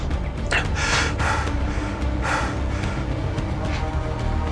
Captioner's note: gasps